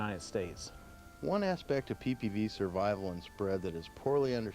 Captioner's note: voiceover